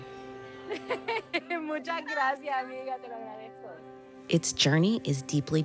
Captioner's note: laughs and speaks in Spanish